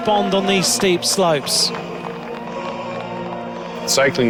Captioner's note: crowd applauding